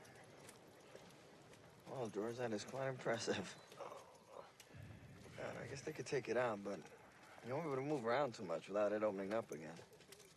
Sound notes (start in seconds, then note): 3.7 groans